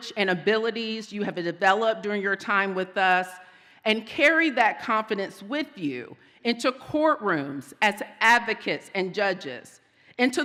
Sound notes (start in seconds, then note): none